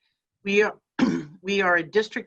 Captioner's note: clears throat